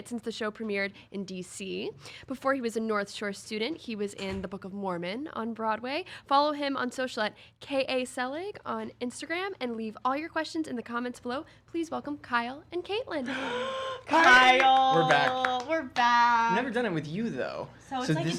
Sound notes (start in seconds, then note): 13.3 gasping; 15.8 clapping